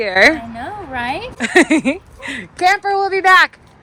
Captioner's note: chuckling